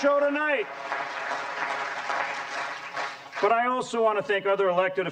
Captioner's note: applause